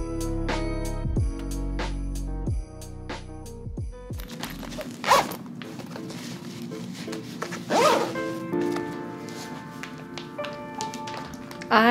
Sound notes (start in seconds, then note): 5.3 bag zipping; 9.0 soft music